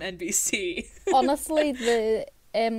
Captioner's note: hosts laugh